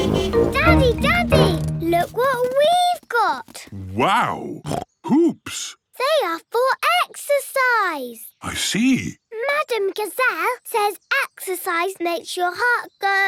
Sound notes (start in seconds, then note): 3.0 snorts